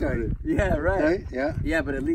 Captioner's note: laughs